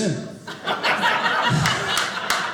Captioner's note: audience laughing